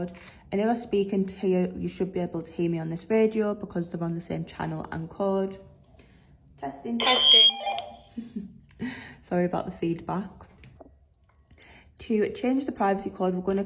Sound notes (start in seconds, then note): 6.6 radio echo TESTING